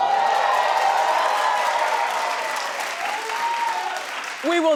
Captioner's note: audience cheering